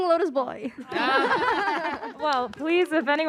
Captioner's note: laughter